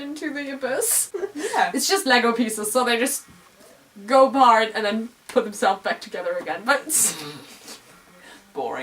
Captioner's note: laugh